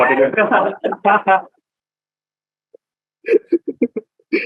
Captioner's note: laughter